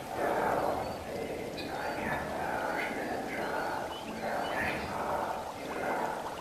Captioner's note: mysterious whisper chanting